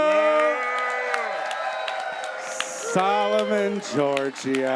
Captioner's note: audience cheers